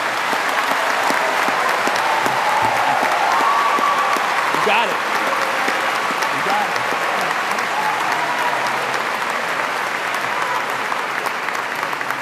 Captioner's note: applause